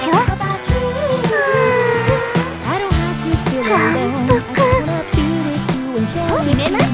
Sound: sigh

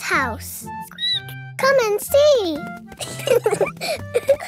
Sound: squeaks; both laughing

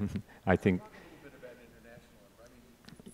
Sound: speaks faintly

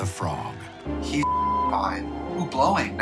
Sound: beep

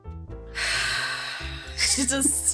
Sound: sighs

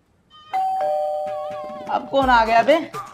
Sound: door bell rings

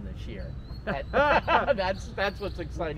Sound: both laughing

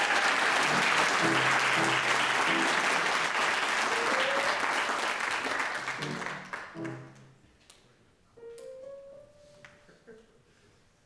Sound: audience applauds

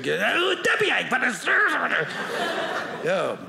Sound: audience laughing

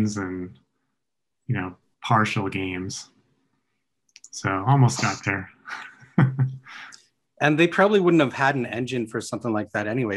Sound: chuckles

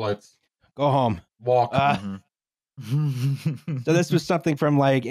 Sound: laughs

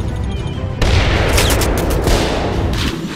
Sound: Thermal Detonator explodes

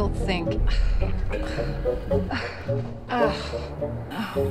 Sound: frustrated sigh

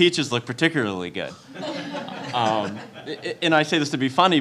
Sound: audience laughing

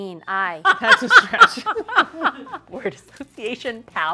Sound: laughter

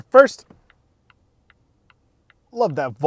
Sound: indicator clicking

